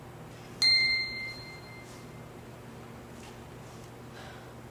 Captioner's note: ping